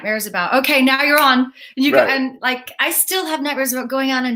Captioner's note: snaps